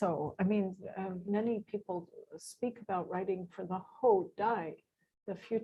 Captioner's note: non-english